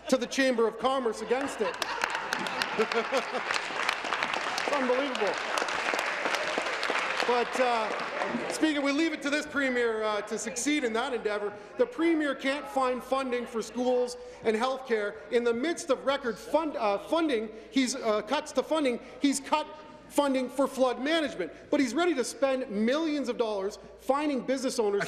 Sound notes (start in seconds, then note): 4.8 applause